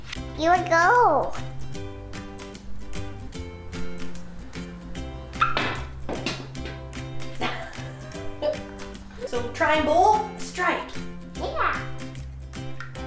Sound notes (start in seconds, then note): 7.3 laughs